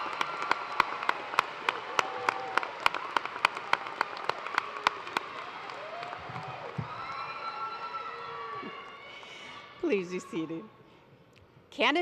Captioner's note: cheers and applause